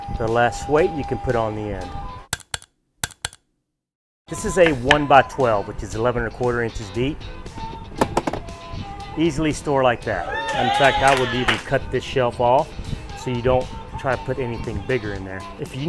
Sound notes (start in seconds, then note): 3.0 tool clicking; 10.2 people cheering